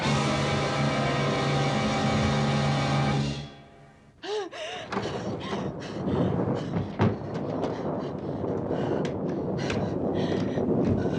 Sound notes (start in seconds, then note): 4.2 gasping, panting; 6.4 thunder continues rumbling